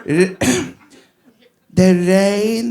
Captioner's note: clears throat